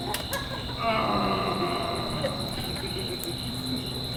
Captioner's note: Bottom groans